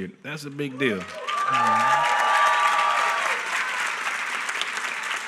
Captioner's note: applause